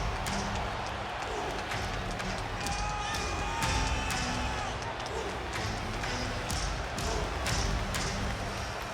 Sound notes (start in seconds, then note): 3.9 crowd cheers